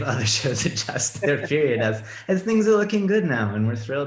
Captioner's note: laughs